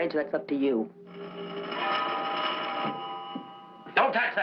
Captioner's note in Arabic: رنين الهاتف